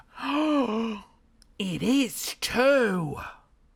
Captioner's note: gasps